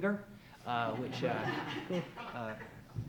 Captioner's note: audience laughs